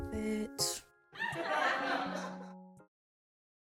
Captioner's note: laughing sound effect that sounds like fake laughing